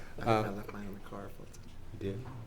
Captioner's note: mumbles